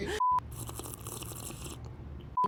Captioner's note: laughing; slurping; beeping